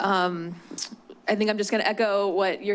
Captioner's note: clicks tongue